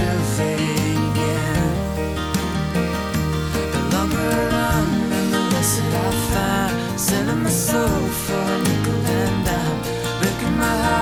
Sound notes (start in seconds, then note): none